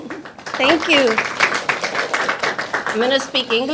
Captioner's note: audience applauding